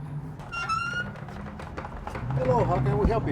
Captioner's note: door creaks